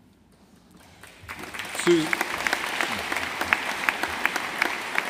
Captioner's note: audience applauding